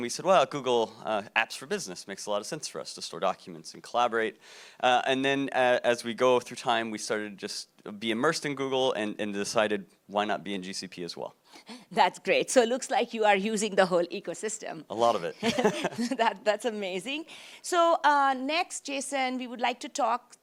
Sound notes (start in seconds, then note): 15.4 laughs